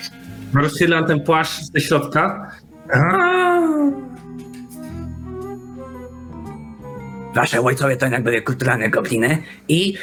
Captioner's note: goblin noises